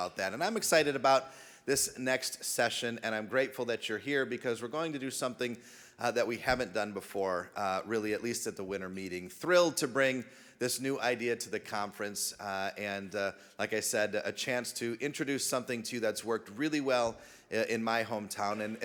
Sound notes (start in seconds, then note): none